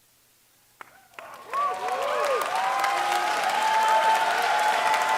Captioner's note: applause